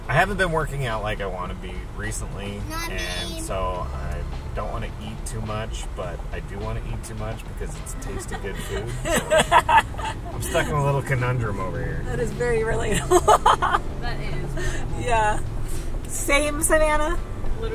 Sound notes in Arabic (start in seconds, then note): 12.9 يضحك